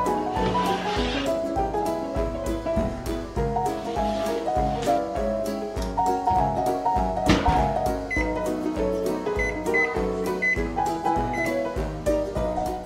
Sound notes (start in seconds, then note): 6.6 oven clicking shut; 9.4 oven timer beeping